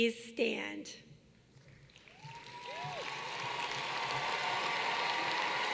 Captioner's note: applause